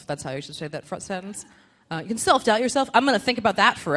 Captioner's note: none